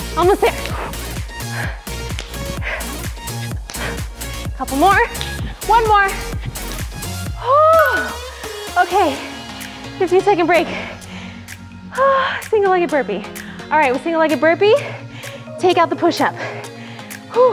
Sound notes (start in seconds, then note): 1.2 upbeat music; 7.5 sharp exhale; 17.3 sharp exhale